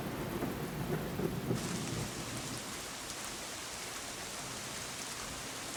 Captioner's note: heavy thunder striking; heavy rain pouring